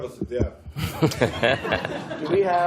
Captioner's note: laughter